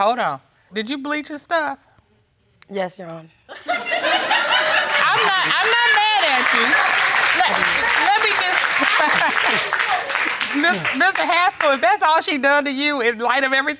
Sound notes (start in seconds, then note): 4.5 audience laughing; 6.1 audience applauding